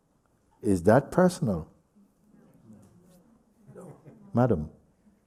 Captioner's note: voices in group